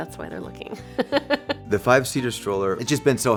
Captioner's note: laughs